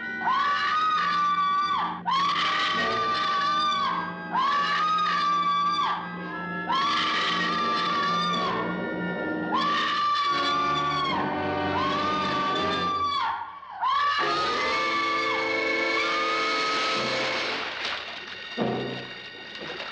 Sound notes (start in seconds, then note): 0.0 suspenseful music; 0.0 screaming; 16.6 splash; 17.0 liquid bubbling & fizzing; 18.1 dramatic music